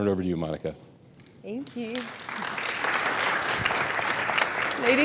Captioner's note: audience applauding